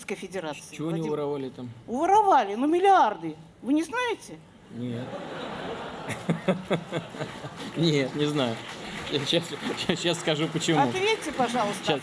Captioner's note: laughter